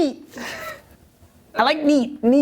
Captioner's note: laughter